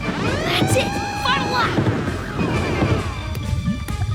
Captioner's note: beeping